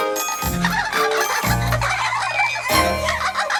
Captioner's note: giggling